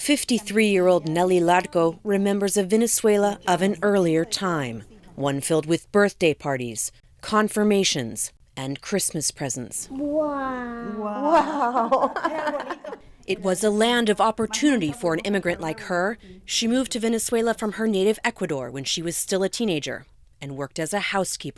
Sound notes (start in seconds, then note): 11.0 laughter; 11.0 through translator